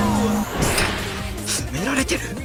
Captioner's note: angry rally noises